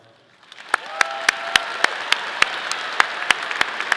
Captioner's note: audience clapping